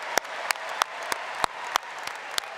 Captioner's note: applause